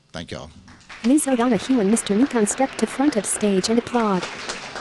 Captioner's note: applause